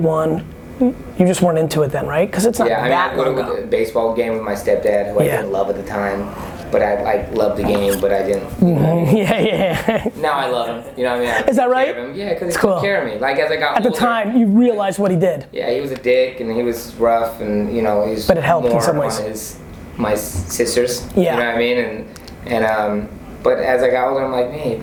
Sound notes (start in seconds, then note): 9.6 laughing